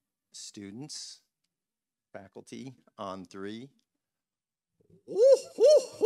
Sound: whooping

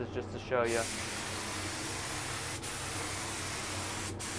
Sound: paint spraying

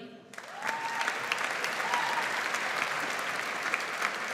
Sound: audience applauds

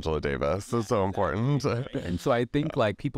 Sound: laughs

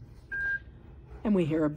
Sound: device beeping

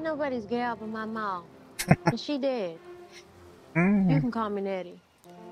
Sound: laughing

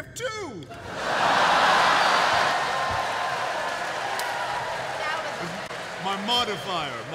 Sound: laughter

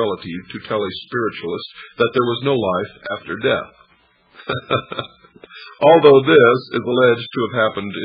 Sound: laughs

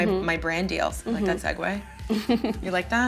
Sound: laughs

